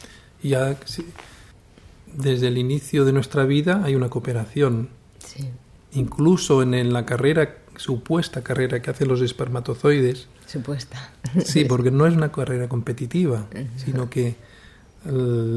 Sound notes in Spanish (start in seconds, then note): 10.9 risa